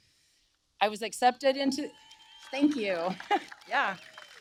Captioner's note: applause